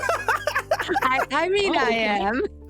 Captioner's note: laughter